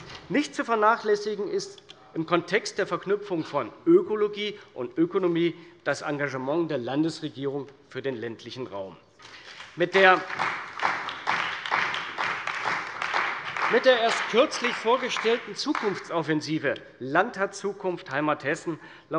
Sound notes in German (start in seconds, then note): 9.2 Beifall bei der CDU und dem BÜNDNIS 90/DIE GRÜNEN